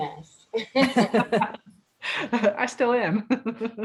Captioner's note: laugh